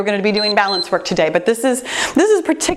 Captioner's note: timer beeps